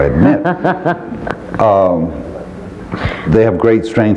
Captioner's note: laughing